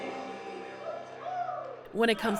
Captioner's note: cheering